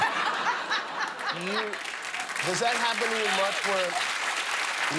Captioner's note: applause